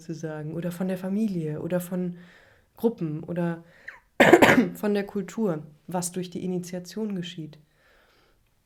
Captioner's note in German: räuspern